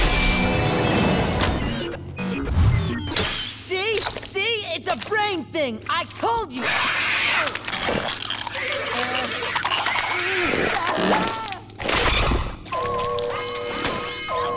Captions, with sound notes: See? See? It's a brain thing! I told you! [screeching] [alarm blaring]